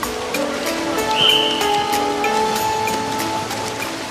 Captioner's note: whistle blows